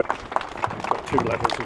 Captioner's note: audience applauds